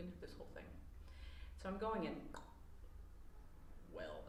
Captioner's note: pop